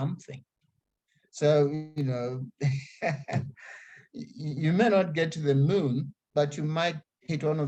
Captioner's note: laughs